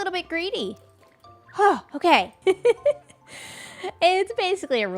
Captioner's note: laughs